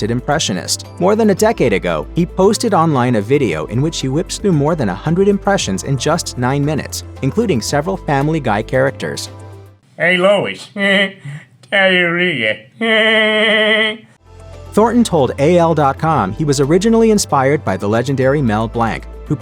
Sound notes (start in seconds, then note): 13.5 laughs